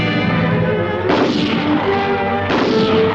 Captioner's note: gunshots